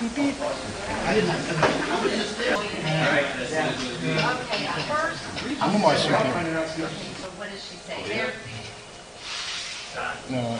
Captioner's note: class chattering indistinctly